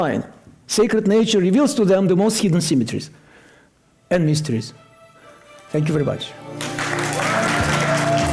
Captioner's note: applause